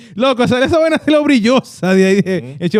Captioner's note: speaking In Foreign Language